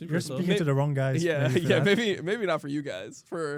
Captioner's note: laughs